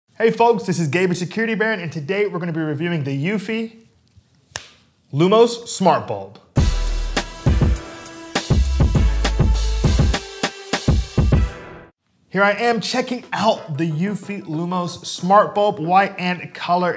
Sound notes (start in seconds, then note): 6.1 claps; 8.3 background music